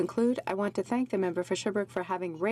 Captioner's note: speaking french